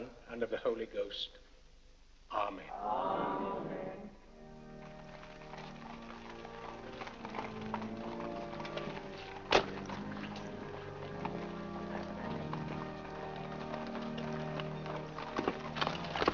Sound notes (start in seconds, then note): 4.2 organ plays; 4.4 hooves trotting; 11.8 organ plays